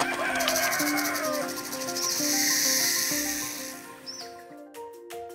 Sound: rooster crowing; snake rattling; bright music; lighthearted music

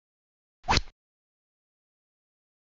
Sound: rod sound

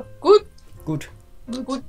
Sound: German

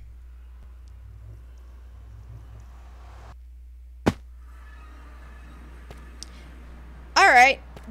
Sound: nether portal sounds

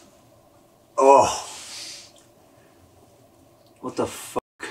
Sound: groans

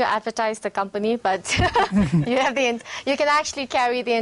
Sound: laughing

